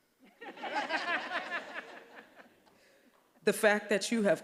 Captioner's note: all laughing